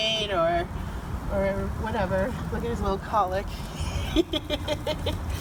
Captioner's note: laughs